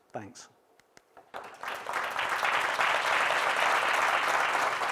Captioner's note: audience applause